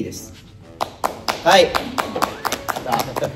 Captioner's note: claps